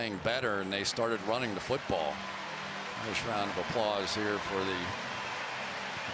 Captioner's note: applause